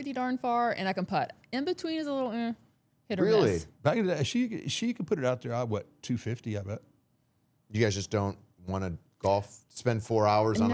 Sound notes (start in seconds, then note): none